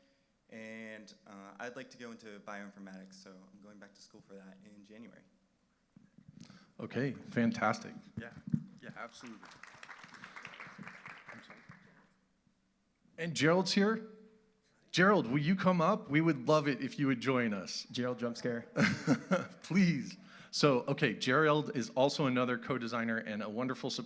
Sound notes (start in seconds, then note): 8.8 applause